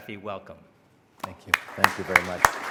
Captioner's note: applause